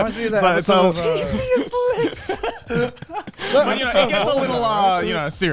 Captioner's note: laughs